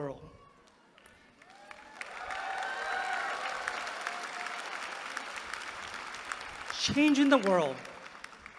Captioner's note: applause